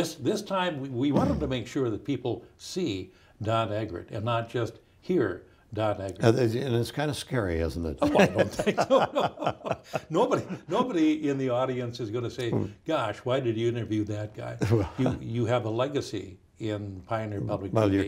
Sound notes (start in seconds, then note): 8.0 both laughing